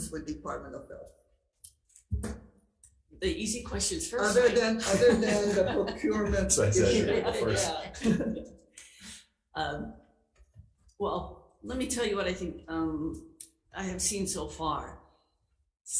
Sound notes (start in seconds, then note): 4.2 laughs; 7.2 attendees laughing